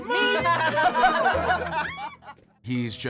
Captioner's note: everyone laughs